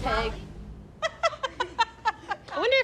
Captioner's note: laughter